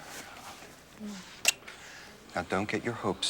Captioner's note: smooching